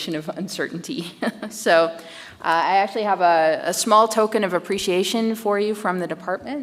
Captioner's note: chuckles